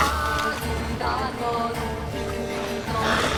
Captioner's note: water bubbling